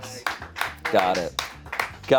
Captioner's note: studio members clapping